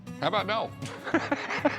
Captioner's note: laughs